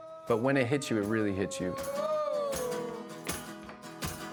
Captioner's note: both vocalizing